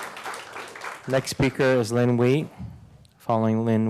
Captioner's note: applause